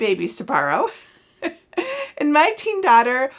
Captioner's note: chuckles